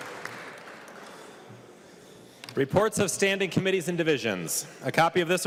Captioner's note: clapping